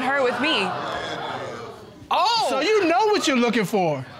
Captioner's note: audience exclaiming